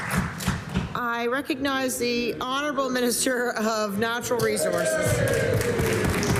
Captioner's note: applause